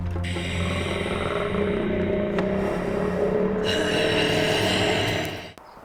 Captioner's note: rapid knocking; growling